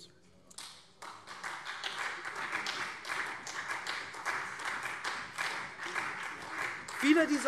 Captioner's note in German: Beifall SPD und vereinzelt CDU